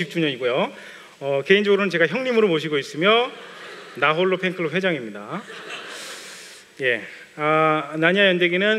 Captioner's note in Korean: 웃음